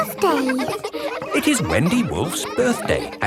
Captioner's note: kids laughing